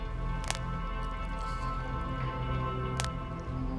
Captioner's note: neck creaking